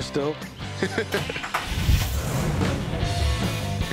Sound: rock music playing; car engine revs

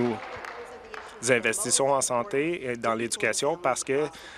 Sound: some applause

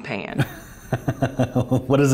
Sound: laughing

